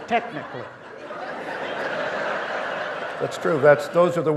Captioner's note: audience laughing